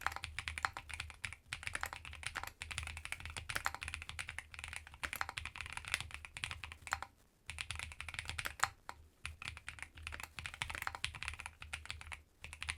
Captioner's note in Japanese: 打鍵音チェック中; 打鍵音チェック中